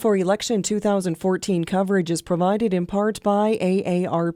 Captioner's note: voiceover